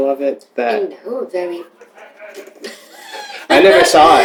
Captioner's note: laughter